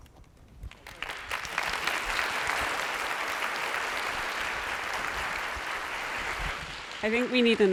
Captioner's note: applause